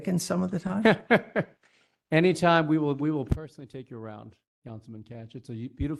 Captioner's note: laugh